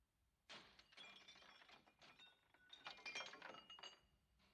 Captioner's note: glass Breaking